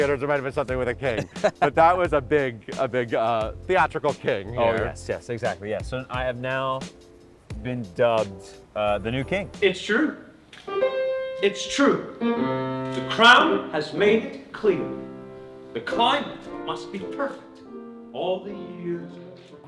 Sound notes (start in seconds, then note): 1.0 laughs; 10.6 trumpet blatting